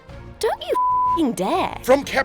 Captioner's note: beeping